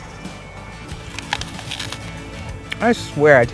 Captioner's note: apple crunches